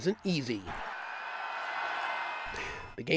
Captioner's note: crowd cheering